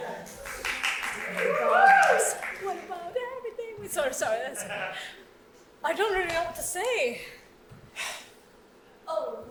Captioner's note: audience clapping and cheering over quieter singing